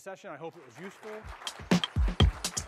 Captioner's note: applause